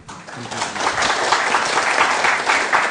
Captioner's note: applause